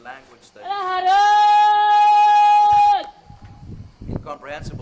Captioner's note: chanting in greek